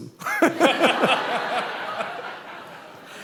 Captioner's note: laughter